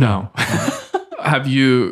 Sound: friars laughing

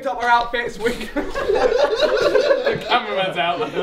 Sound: all laugh

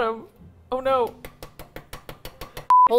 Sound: tapping; beep

